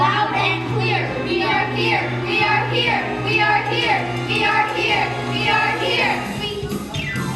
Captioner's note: shouting